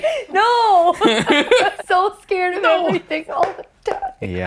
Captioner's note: laugh